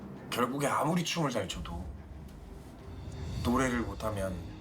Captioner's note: speaking in foreign language